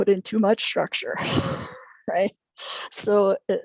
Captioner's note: chuckling